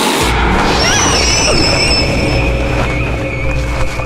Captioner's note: bird screeches as flying away